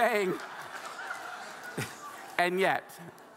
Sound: audience laughing

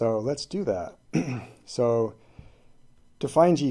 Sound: clears throat

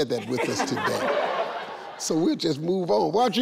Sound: people laughing

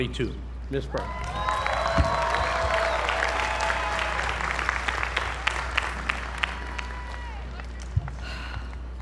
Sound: applause

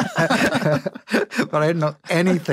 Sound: laughter

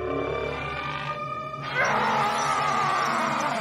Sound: screaming

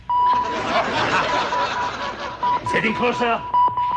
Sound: audience laughter

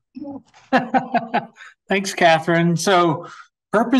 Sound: laughs

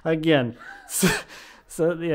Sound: both laughing

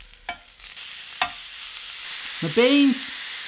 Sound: food sizzling

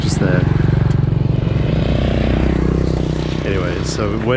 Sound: enigine roaring

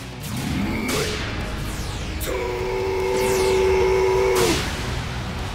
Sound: growling

